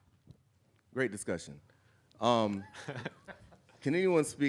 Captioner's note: audience chuckling